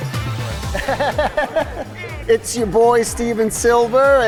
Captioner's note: laughter